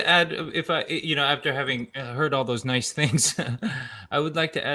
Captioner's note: laughs